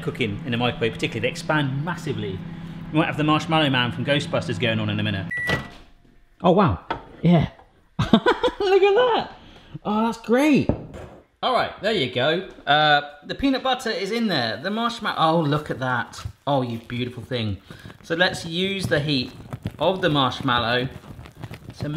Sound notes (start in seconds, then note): 5.2 beeping; 8.0 laughing